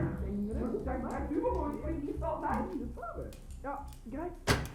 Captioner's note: voices